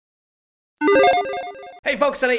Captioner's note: electronic chimes resonating